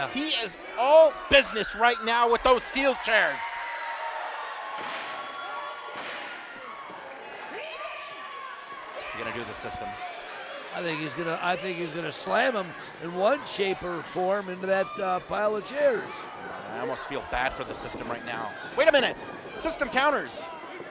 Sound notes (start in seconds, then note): 3.1 crowd screaming